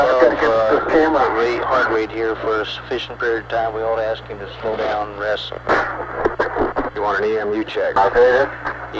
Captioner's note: mission Control Audio